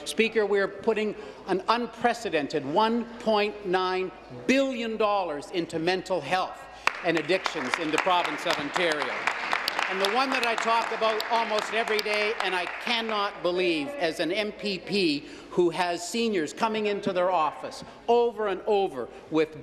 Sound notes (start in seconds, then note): 12.0 applause